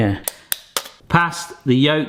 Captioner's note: knife tapping